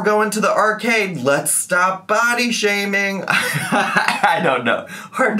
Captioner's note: laughing